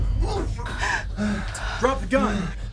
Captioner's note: David grunting; Hope gasping